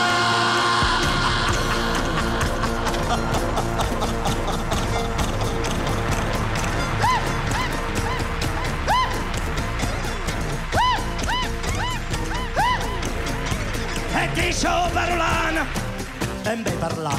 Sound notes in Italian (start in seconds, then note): 1.0 canticchia